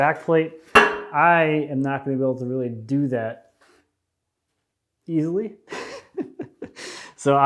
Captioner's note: chuckles